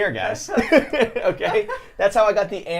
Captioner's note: laughs